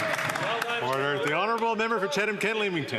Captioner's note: cheering and Applause